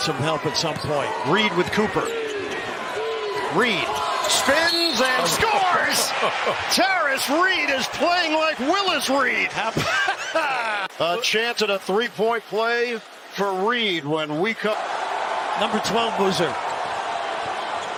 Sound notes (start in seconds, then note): 9.6 laughter